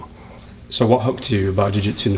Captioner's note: voiceover